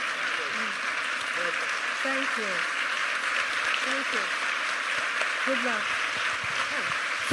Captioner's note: applause